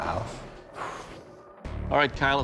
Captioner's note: exhales